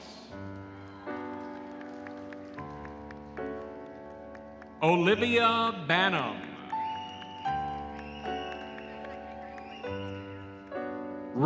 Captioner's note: cheering and applause